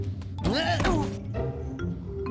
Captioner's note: oof